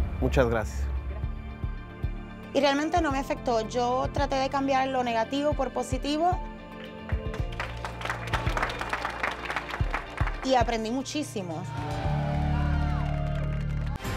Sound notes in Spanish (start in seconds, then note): 6.8 Aplausos; 11.6 Algarabía y aplausos